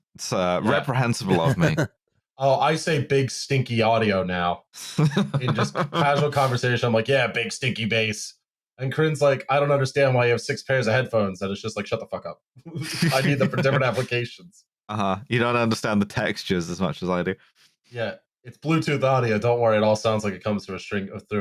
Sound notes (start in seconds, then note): 1.3 laughs; 4.9 laughs; 12.8 laughter